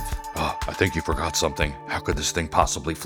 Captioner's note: Deep Batman voice